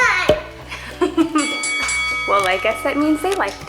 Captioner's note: bell dings